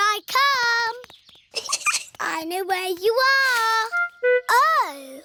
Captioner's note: giggles